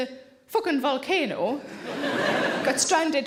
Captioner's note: audience chuckles